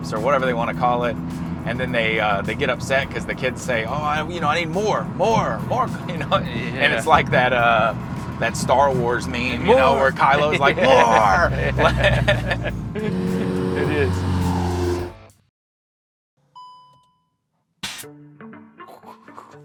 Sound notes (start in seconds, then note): 12.5 motor purring; 16.5 car signal dinging; 17.8 air whooshing